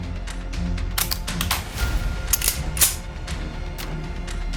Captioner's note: slow dramatic music; dramatic orchestral music; gun clicking